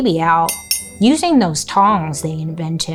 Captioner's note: metal clanging